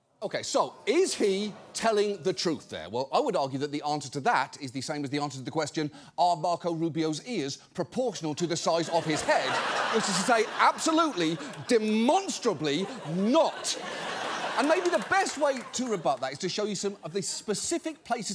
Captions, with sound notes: Okay, so is he telling the truth there? Well, I would argue that the answer to that is the same as the answer to the question, "Are Marco Rubio's ears proportional -to the size of his head?" -(AUDIENCE LAUGHS) Which is to say, absolutely, demonstrably not. (AUDIENCE LAUGHS, APPLAUDS) And maybe the best way to rebut that is to show you some of the specific places